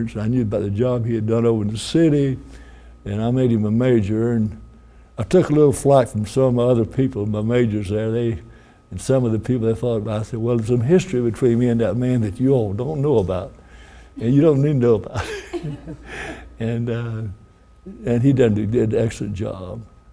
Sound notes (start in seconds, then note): 15.1 woman laughs; 15.1 laughs